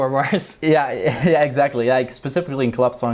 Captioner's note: chuckles